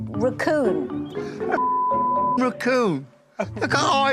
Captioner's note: laughs